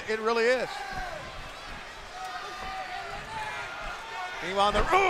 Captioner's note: crowd cheering